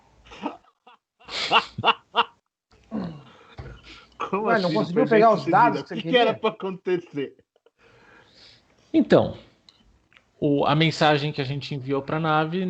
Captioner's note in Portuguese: Risos